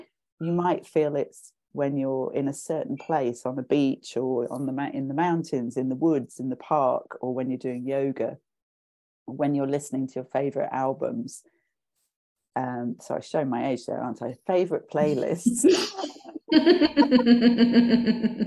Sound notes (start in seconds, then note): 15.7 laughter